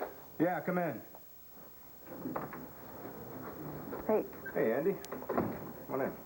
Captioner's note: knock on door